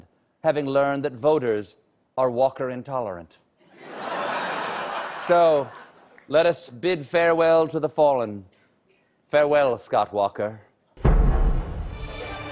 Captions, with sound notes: HE FOUGHT BRAVELY, BUT NOW HE RETURNS TO AMERICA'S DAIRY LAND, HAVING LEARNED THAT VOTERS ARE WALKER INTOLERANT. ( LAUGHTER ) SO LET US BID FAREWELL TO THE FALLEN. FAREWELL, SCOTT WALKER.